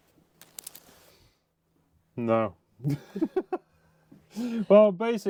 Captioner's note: laughs